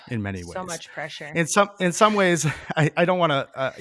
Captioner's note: chuckles